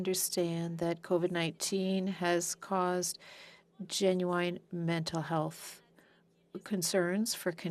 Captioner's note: speaking French